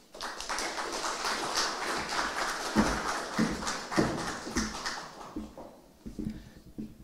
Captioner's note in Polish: oklaski